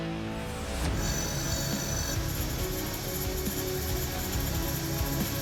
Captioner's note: sharpening